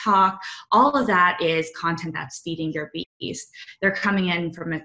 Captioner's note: audio blurs